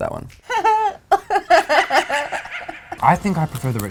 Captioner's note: laughs; maniacal laugh